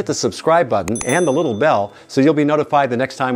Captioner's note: bell chimes